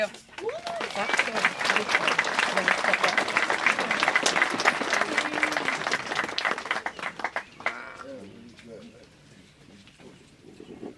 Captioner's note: applause